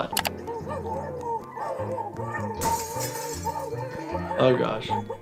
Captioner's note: keyboard clicking; Handy grunting